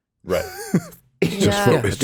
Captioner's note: Justin chuckles